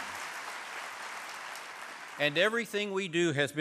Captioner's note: applause